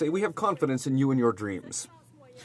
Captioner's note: speaking French